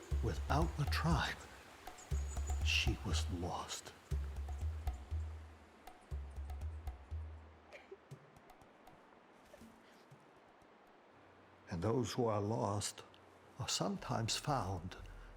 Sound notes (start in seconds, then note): 7.7 Kyne sobs